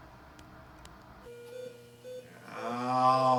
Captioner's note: machine beeps; groans